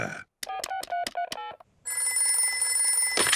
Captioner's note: oinks; beeping; phone rings